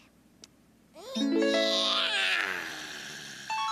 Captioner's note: yawning